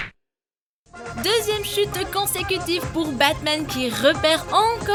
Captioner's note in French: Voix-Off